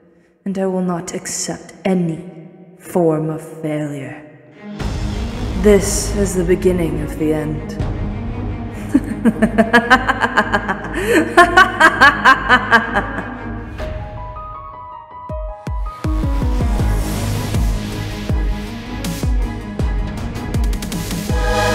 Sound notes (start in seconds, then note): 8.7 maniacal laughter